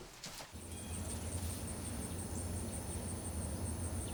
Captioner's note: insects chirping